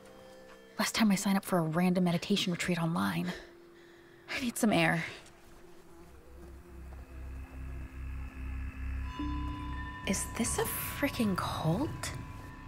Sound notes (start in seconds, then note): 3.5 deep breathing; 8.1 bells dinging